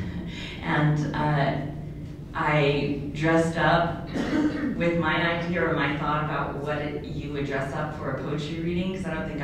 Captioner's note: laughs